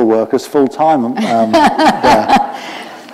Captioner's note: laughter